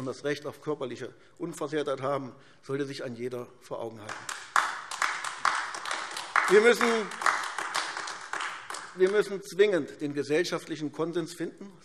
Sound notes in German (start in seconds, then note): 4.0 Beifall AfD